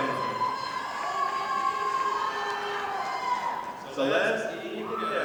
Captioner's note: audience applauding